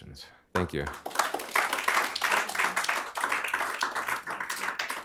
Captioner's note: applause